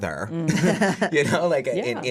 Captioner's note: laughs